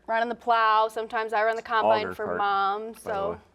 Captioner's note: none